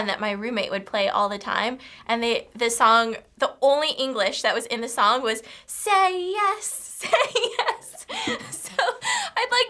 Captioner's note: laughs